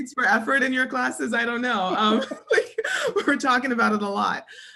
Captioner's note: laugh